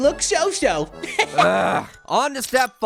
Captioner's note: chuckles